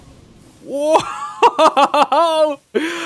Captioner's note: laughs